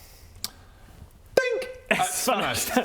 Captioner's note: dink!